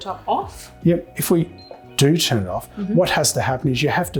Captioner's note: cooktop beeps